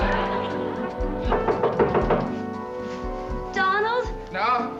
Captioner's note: knock on door